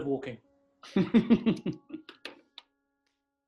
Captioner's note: chuckling